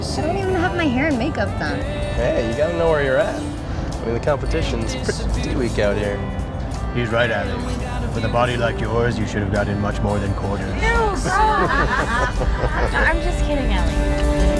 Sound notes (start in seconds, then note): 11.1 Allie laughs